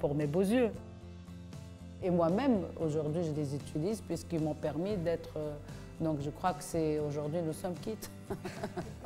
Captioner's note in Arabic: ضحك